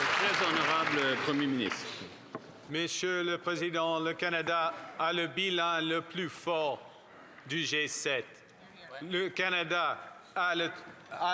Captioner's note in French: applaudissements